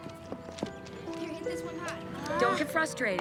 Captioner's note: sighs